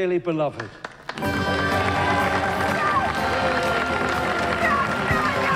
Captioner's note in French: applaudissement